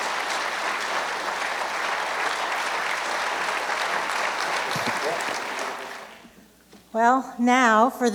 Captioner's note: applause